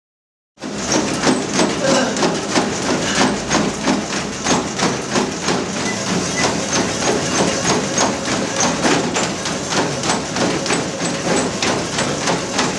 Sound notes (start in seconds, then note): 0.8 treadmill humming rhythmically